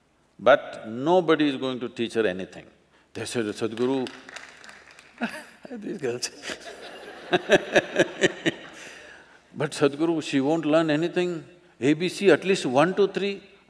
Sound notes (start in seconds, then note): 6.4 laughter; 6.4 laughs